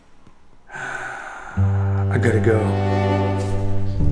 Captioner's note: sighs